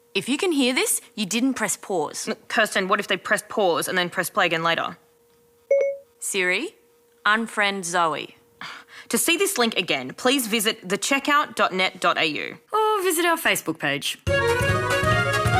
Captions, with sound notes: If you can hear this, you didn't press pause. Kirsten, what if they pressed pause and then play again later? (Beep) Siri? Unfriend Zoe. To see this link again, please visit thecheckout.net.au Or visit our Facebook page.